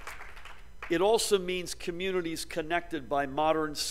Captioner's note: applause